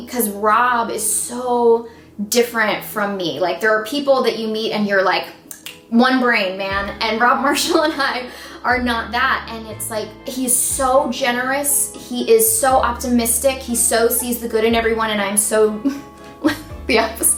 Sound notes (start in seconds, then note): 5.5 fingers snapping; 16.3 laughs softly